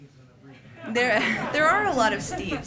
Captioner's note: laughter